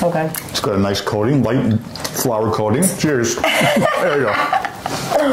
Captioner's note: laughter